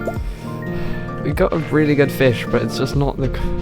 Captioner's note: sighs